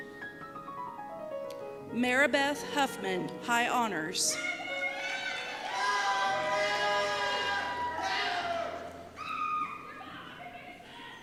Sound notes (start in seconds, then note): 4.5 cheers